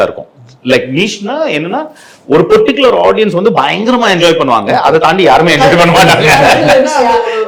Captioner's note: laughs